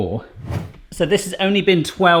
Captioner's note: air whooshing